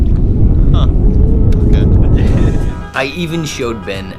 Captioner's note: laughter